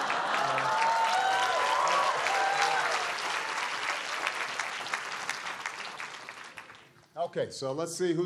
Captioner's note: applause; laughter